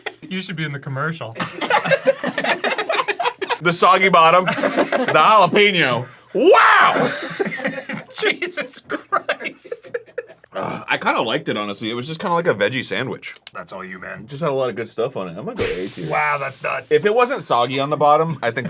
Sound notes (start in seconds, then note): 1.4 they still be laughing